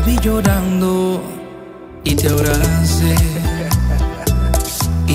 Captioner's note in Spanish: Haha